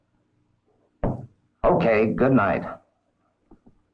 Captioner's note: pencil tapping